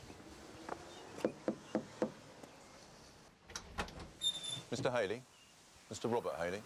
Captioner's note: health inspector knocking